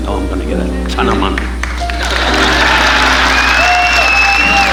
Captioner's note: audience applauding